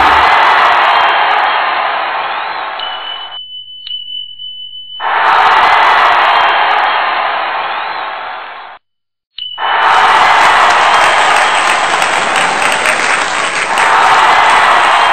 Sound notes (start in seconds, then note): 2.8 bell ringing, cheering